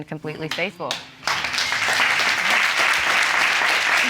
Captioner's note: audience applauding